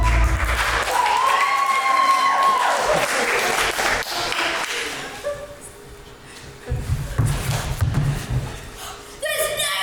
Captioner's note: audience applauds